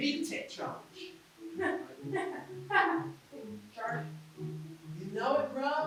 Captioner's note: laughs